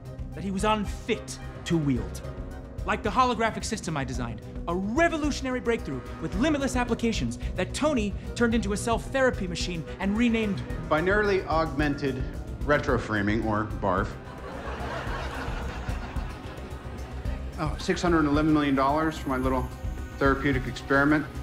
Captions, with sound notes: that he was unfit to wield. Like the holographic system I designed. A revolutionary breakthrough with limitless applications that Tony turned into a self-therapy machine and renamed-- Binarily Augmented Retro-Framing, or BARF. [AUDIENCE LAUGHS] Oh, $611 million for my little therapeutic experiment.